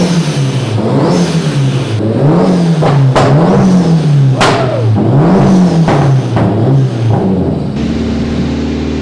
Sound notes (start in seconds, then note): 3.4 engine revving and popping